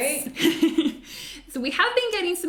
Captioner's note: laughs